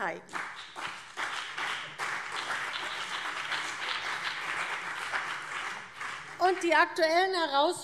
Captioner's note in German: Beifall CDU und BÜNDNIS 90/DIE GRÜNEN